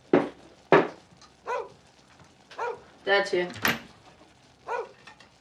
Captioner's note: barking